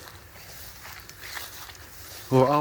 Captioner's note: footsteps sloshing